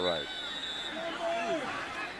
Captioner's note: whistle